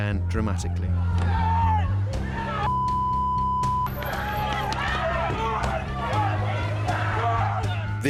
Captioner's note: shouting and screaming